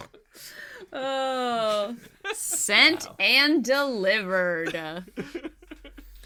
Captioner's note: laugh